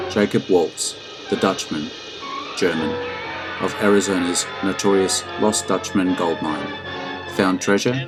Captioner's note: German